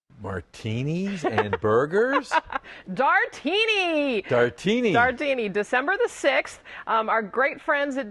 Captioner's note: laughter